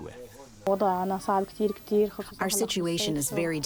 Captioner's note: through translator